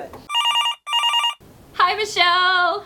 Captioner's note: phone sound